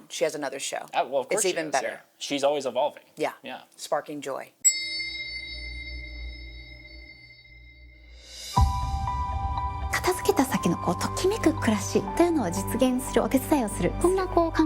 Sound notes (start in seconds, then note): 4.6 tuning fork chimes; 8.5 light music; 10.3 Marie speaking foreign language